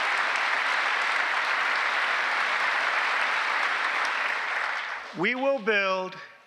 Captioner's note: applause